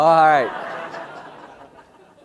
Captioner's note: laugh